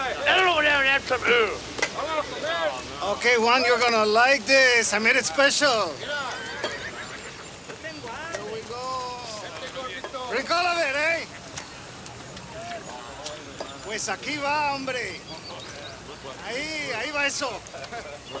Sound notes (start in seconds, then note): 7.7 gang members chatter; 13.9 Crecencio speaks Spanish